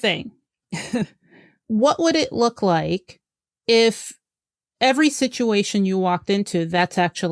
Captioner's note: laughs